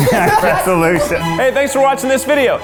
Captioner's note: all laughing; elated music